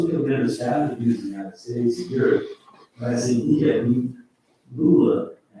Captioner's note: faintly speaking